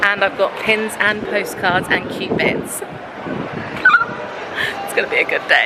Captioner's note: gasping